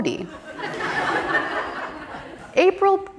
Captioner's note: audience laughing